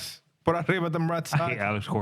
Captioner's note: speaking In Foreign Language